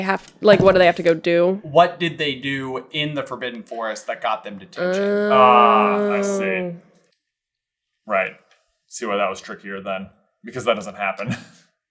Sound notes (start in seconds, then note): 10.9 chuckles